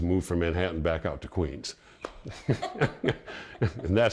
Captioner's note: chuckles